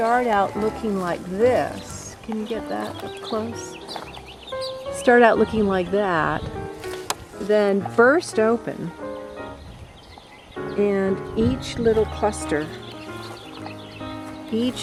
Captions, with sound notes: can you get that up close? (birds chirping) Start out looking like that, then burst open, and each little cluster,